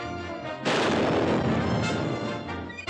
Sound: canon Fire

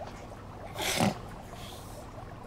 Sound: snorts

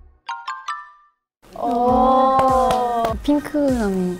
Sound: clap clap

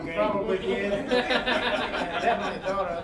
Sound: all laughing

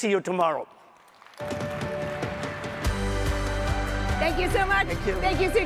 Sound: audience applauding; upbeat music

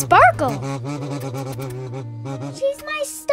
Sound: buzzing

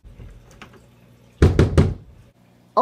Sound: knocks

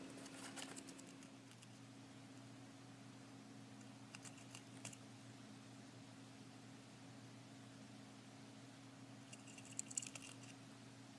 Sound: crunching sounds of Q-Tip chewing on her walnut and its shell

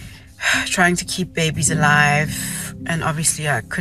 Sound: sighs

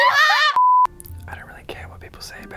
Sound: beeps

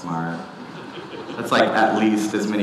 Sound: audience laughing

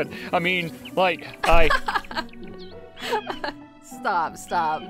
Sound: laughing

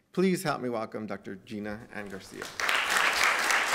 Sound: applause

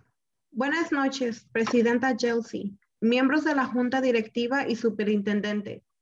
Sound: speaking in foreign language

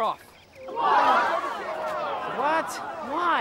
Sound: crowd

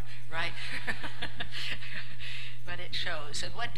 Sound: laughter

